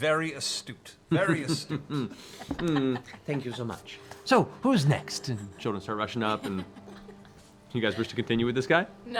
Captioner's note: chuckles